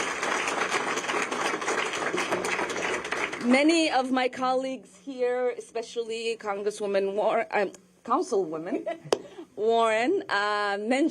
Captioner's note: applause